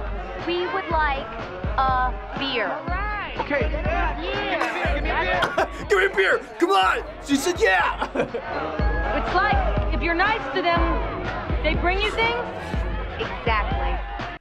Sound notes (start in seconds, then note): 5.3 chuckles